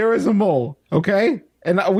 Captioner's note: none